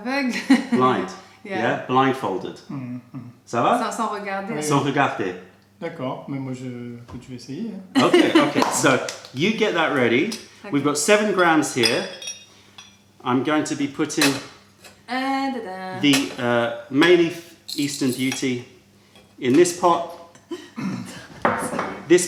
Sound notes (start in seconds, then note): 0.3 laughter; 7.8 french